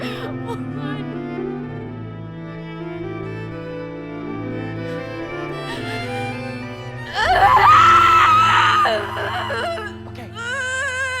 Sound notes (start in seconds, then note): 7.0 screaming